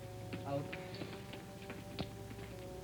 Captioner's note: man, quietly